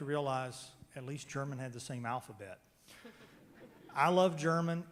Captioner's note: loud laughter